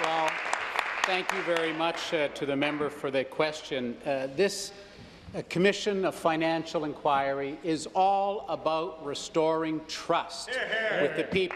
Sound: applause

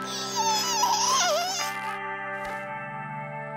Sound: groaning

